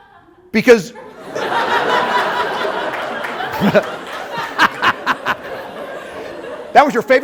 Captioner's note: laughter